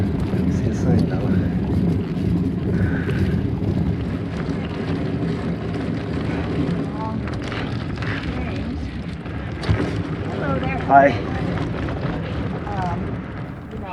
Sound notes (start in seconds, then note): 8.2 ladies talking